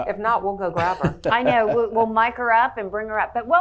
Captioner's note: laughs